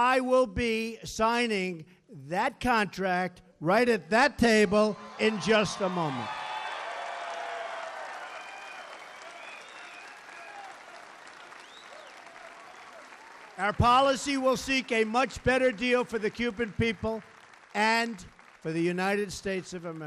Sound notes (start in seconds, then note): 6.8 applause